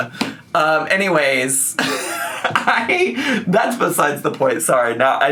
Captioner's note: laughing